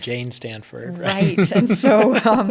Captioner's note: laugh